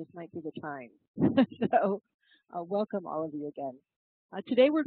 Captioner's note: laugh